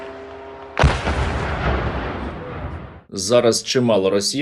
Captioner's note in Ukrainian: автоматні черги; вибух